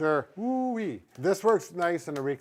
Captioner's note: exclaims